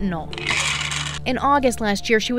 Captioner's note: pills rattling